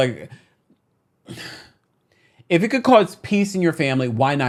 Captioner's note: sighs